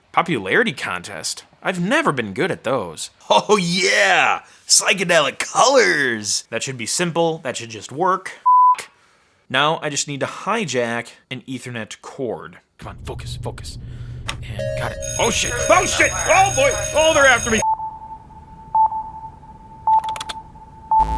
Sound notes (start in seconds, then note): 14.6 alarm ringing; 17.7 beeping